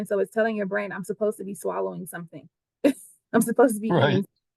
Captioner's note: laughter